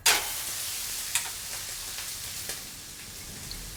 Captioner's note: sizzling